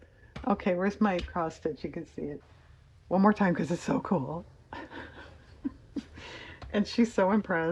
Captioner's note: laughs